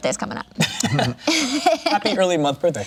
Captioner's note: laughs